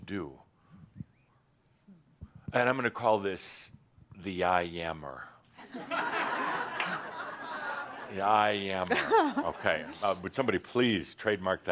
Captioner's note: laughter